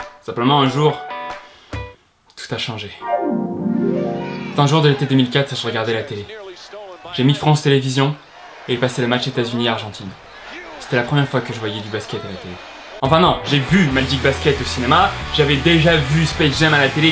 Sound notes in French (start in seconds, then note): 1.4 inspire profondément; 3.0 la musique se coupe; 6.2 la télé diffuse un match